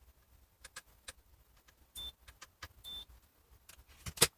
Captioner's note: silence